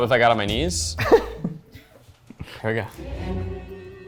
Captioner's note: laughs